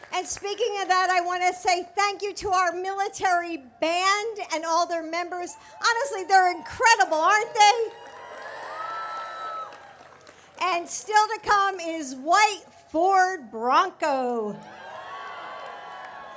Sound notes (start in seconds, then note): 7.6 applause